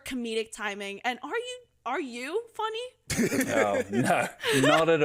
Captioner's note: laughs